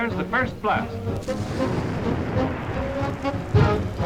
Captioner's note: boom